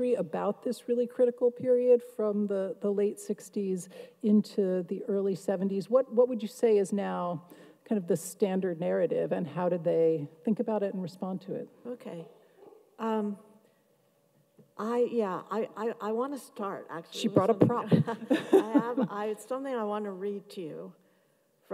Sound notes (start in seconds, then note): 17.9 laughs